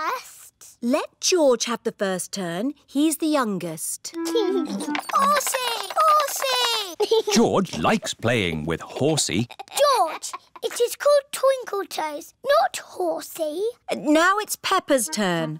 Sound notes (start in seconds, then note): 5.6 giggles